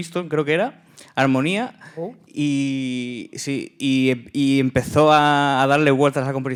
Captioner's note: speaking in Spanish